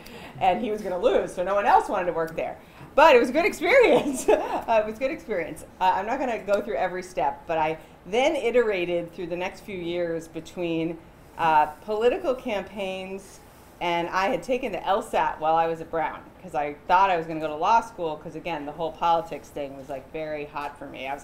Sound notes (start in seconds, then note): 4.0 chuckles